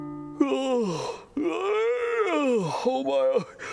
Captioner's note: yawns